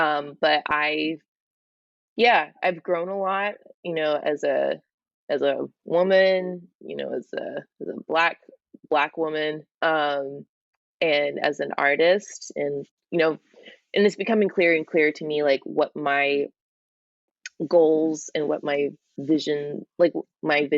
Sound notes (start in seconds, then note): none